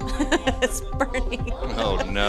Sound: laughs

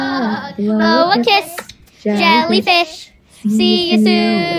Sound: kiss

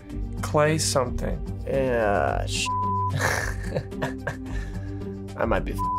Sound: chuckling

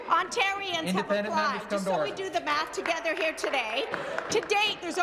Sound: laughter

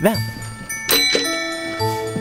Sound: doorbell rings

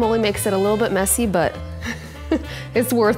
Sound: laughs

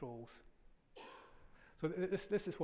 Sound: audience member coughs

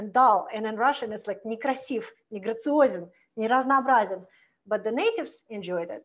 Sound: foreign language

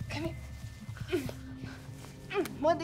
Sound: grunting

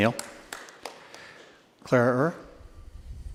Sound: applause

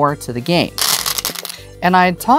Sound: stones rattling

